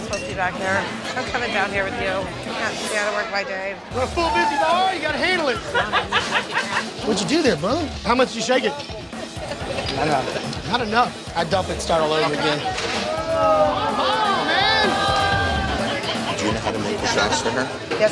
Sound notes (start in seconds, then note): 5.6 lady laughing; 12.6 patrons protesting